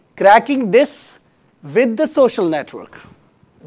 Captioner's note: none